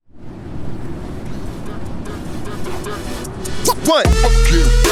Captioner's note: air whooshing harshly; upbeat music